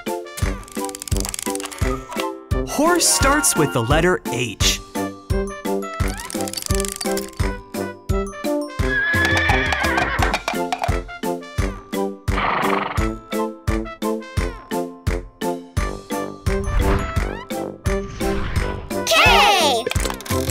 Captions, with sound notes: Horse starts with the letter H. (horse whines) K!